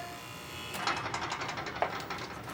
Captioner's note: door buzzer